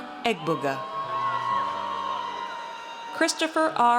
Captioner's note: audience cheers